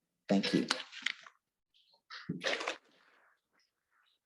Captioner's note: paper rustling